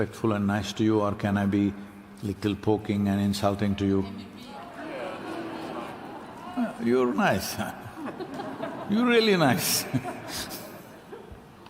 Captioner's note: cheering/Applause